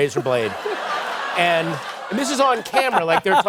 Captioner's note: laughter